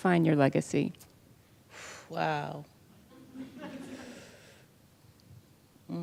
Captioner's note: laughter